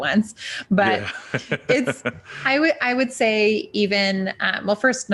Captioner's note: laughing